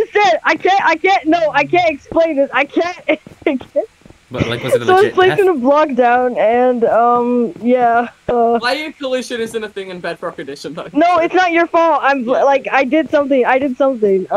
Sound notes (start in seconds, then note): 4.3 laugh